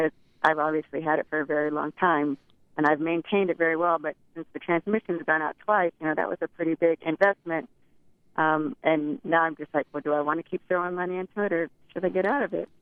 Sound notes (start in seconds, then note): none